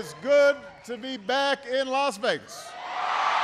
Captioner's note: applause